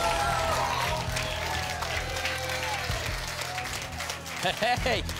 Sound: applause and cheering

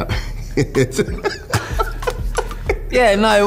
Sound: laughter

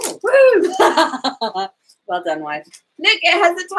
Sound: laughs

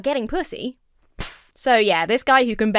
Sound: hand smacks against forehead

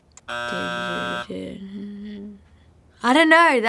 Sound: buzzer sounding

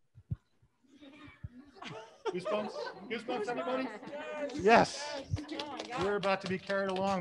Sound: scientists chattering; scientists clapping

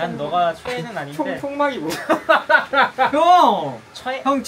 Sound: laughing

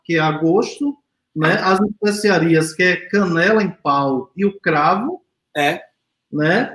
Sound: speaks portuguese

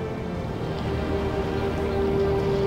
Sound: water moving; seagulls

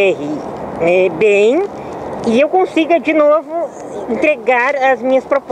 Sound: speaking Portuguese

